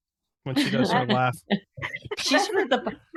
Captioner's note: friends laughing